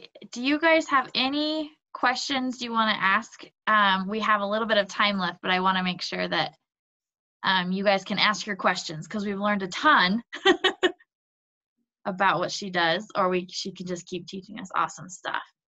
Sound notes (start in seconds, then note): 10.3 chuckles